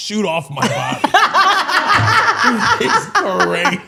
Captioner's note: all laughing